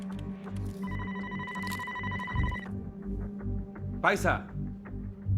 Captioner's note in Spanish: Suena el teléfono